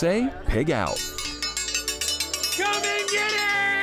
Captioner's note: metal ringing